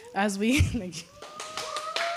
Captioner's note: laughter; applause